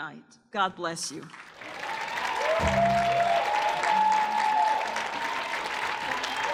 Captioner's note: audience cheers and applauds